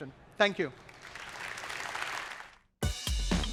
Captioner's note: applause